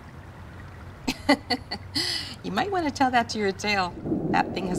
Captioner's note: laughs